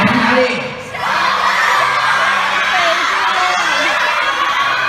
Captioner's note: shouting different cities